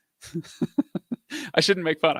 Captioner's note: laughs